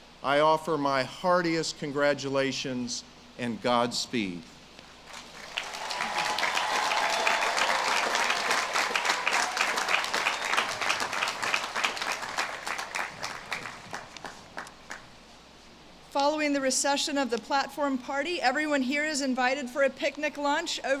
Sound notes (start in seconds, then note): 4.8 audience claps and cheers